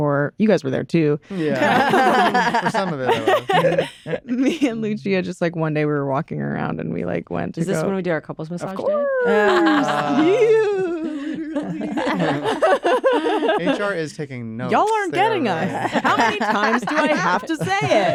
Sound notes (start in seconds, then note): 1.4 laughter; 11.9 laughter